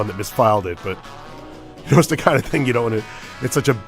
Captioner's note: chuckles